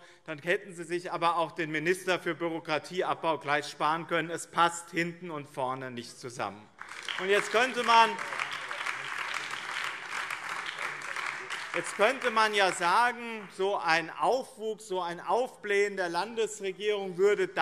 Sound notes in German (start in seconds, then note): 6.7 Beifall BÜNDNIS 90/DIE GRÜNEN